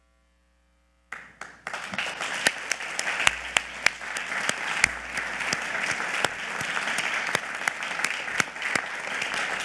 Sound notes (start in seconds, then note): 1.1 audience clapping